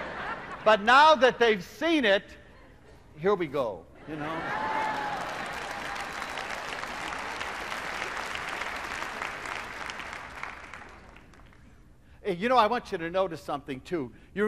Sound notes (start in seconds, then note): 4.5 applause